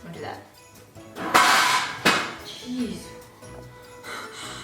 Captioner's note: crashing sound